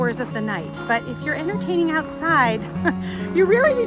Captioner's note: giggles